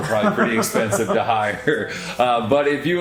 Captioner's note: laughs